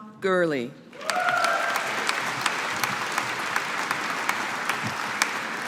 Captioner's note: audience applauding